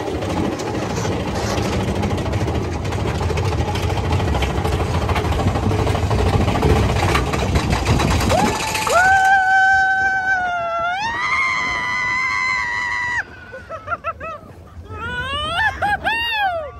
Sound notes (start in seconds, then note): 0.2 ride rumbling and clacking; 11.7 screams